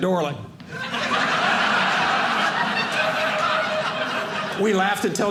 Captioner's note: audience laughing